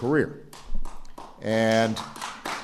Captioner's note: applause